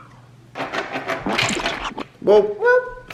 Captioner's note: paint splatters